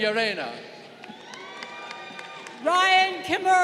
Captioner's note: crowd cheering